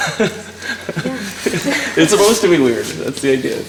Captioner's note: laughing